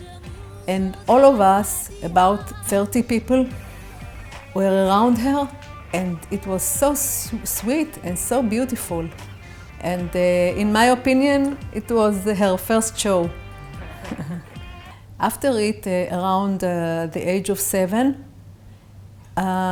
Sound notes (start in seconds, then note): 13.7 chuckling